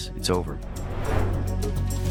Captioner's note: suspenseful music continues; transition whooshing